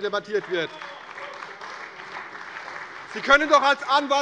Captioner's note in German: Beifall bei der CDU und dem BÜNDNIS 90/DIE GRÜNEN